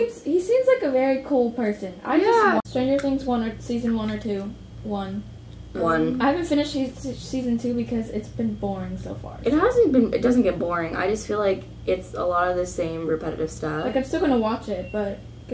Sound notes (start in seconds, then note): 7.5 stammering